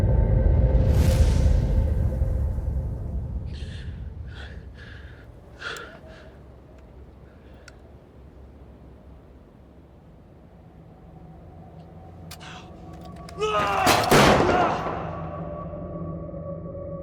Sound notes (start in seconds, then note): 13.2 shouts; 13.8 gunshot echoes